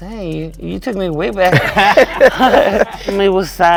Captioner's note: laughing